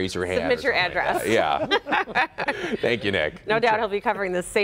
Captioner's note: laughter